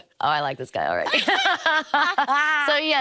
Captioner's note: both laughing